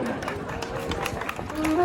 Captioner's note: applause